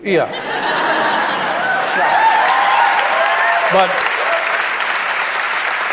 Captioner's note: audience applauds